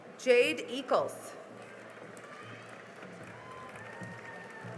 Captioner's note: cheering and applause